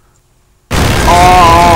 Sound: explosion!

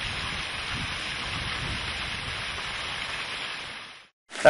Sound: running water

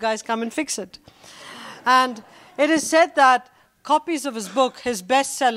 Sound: laughter

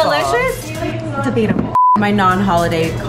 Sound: beep

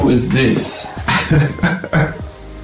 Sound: laughing

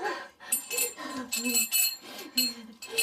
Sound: whimpering; breathing heavily

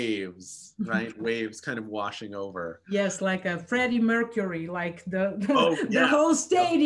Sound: laughs

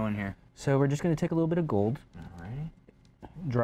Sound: none

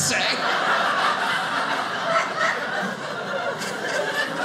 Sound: audience laughing

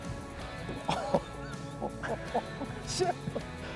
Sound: laughs

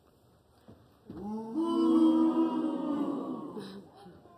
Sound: audience booing

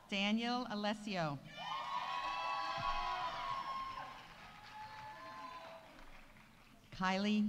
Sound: audience cheering; audience applauding

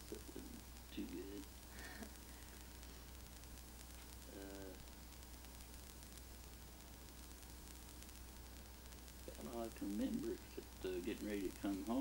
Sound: chuckles

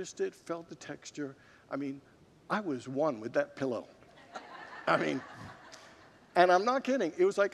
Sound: congregants laugh

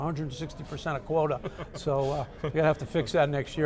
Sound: laughs

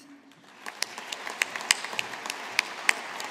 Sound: audience applauding

